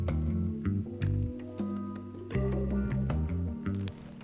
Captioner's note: heart pounding